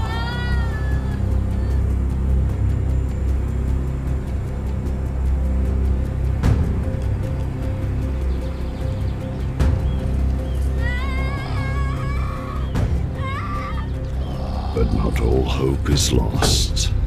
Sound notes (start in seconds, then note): 8.3 birds chirping; 10.9 woman screaming